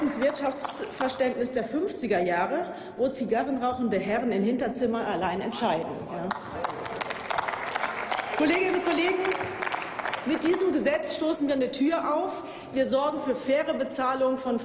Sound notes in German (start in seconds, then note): 6.2 Applaus